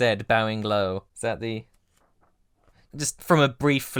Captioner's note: pages flipping